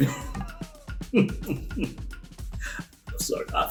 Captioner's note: laughs